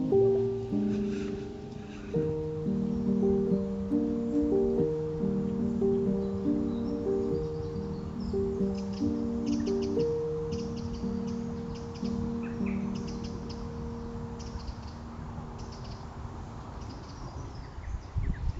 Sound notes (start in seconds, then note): 7.3 birds chirping